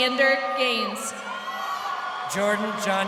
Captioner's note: crowd cheering